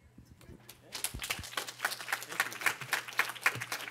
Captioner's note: applause